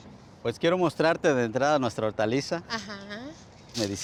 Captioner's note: speaking Spanish